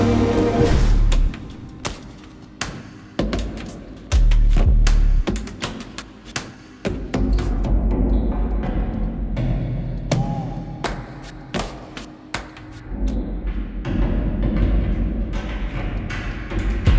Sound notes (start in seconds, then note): 0.7 footsteps with a rhythmic beat; 7.6 echo of footsteps; 12.8 echo of footsteps with rhythmic beat